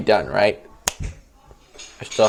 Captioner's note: finger Snap